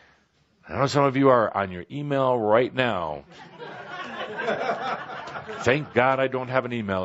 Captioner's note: laughter